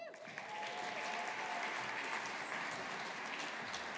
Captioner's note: audience applauding